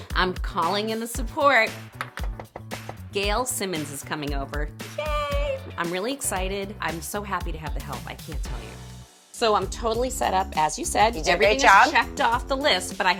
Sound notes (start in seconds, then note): 2.0 knocks